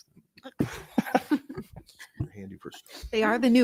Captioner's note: members laughs